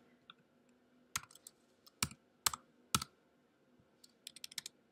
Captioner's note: long pause